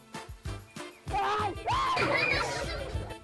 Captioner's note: screaming